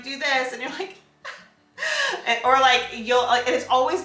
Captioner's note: cries